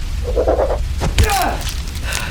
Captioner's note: crack!